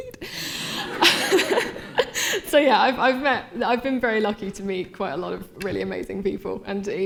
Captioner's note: laughter